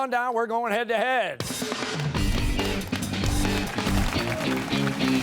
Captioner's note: cheers and applause